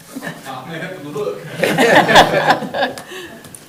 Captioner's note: group laughs